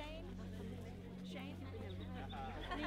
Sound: talking and laughing

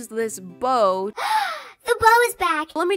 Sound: gasp

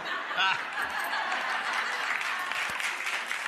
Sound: audience laughing; audience clapping

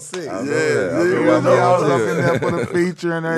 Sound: laughing

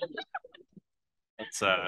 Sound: laughs

